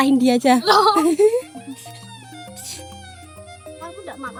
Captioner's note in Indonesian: tertawa